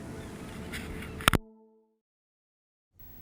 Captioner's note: click